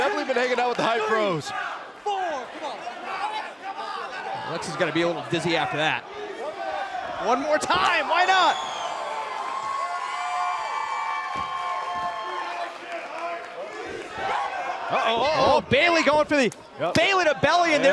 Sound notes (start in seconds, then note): 10.6 cheers & applause